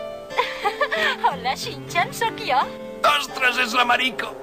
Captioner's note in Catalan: riure